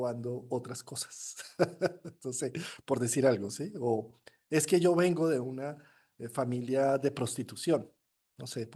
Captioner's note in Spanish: risas